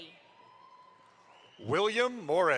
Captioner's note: audience applauds